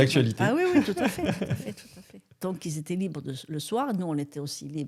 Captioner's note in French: rires